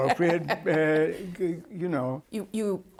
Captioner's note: laughter